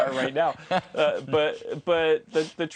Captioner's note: laughter